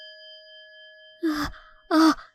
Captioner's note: sigh